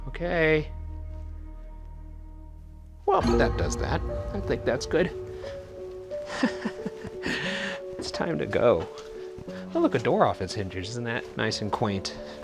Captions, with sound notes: Okay, well that does that. I think that's good. (laughs) It's time to go. Oh, look the door is off its hinges, isn't that nice and quaint.